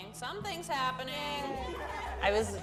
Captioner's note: trio cheering